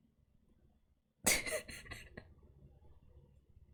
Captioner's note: laughs